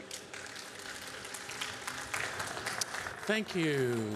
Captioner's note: applause